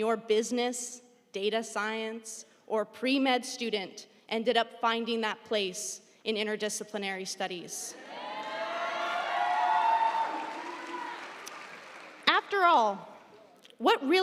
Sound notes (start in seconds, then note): 8.0 audience cheering; 8.2 audience applauding